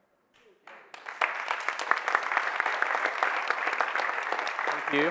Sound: audience applauding

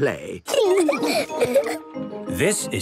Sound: laughing

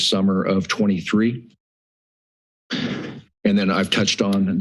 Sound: pause

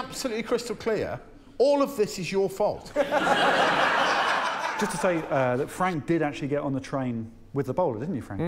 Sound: laughter

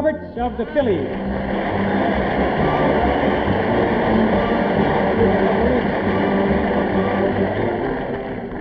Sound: audience applauding

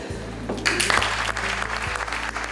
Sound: applause

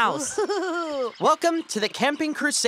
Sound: Mimi laughs

